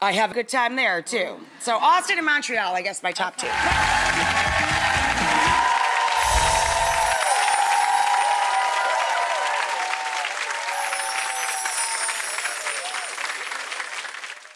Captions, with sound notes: I have a good time there, too. So Austin and Montreal, I guess my top two. (audience cheering)